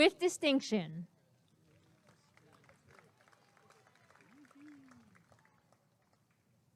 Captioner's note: applause and cheering